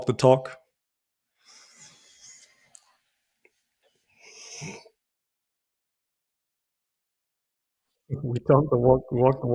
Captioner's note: silence